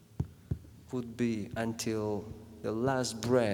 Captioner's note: heart beat; beating